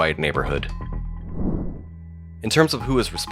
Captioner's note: air whooshes